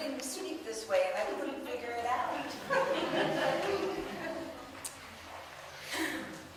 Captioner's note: audience laughs